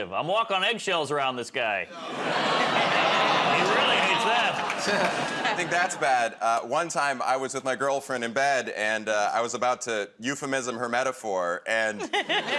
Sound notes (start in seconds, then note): 1.9 audience "Aw"s